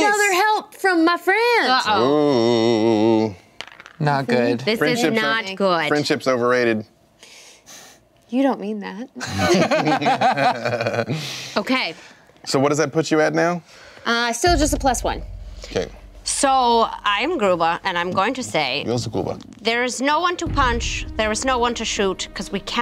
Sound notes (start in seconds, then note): 9.2 laughing